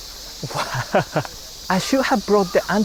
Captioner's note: chuckles